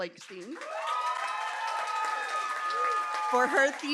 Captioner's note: applause